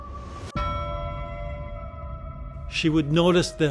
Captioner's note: bell clanging